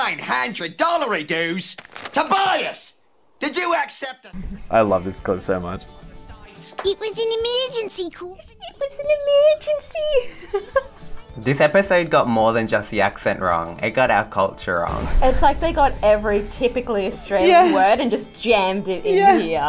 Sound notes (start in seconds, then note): 10.0 laughs